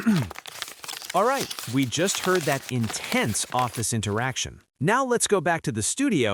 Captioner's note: clears throat